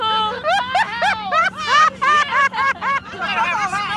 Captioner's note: laughter